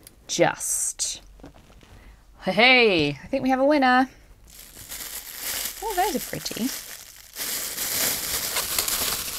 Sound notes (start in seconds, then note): 4.4 rustling